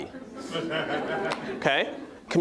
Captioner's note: audience laughing